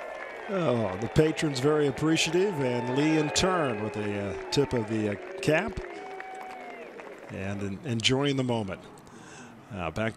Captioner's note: applause